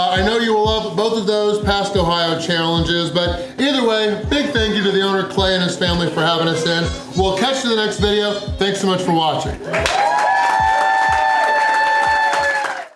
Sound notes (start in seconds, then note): 10.9 crowd cheering